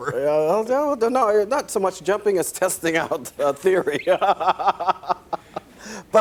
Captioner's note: laughs